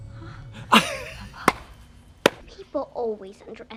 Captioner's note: Katya laughs and claps